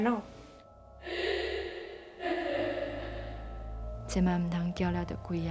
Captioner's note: crying; speaking Taiwanese